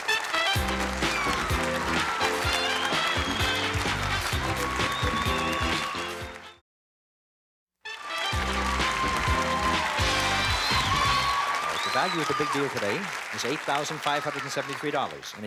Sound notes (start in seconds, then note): 7.8 applause and cheering